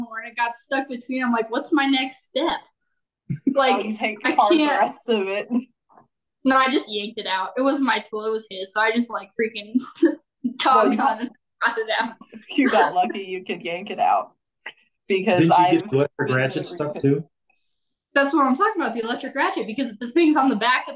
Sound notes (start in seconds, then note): 9.7 faintly speaking; 15.3 faintly speaking